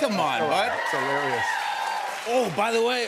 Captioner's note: cheers and applause